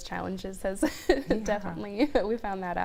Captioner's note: laughs